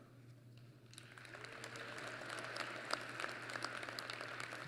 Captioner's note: applause